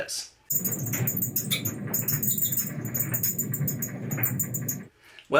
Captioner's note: dryer squeaking loudly